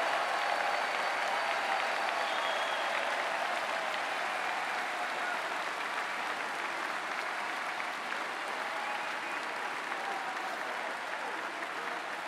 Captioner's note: cheering and Applause